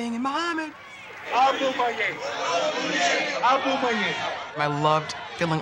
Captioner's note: Muhammad speaks Lingala